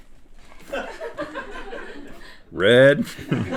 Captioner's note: laughing